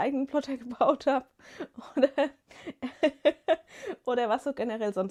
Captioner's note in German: gelächter